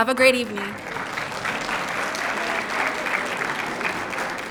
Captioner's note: applause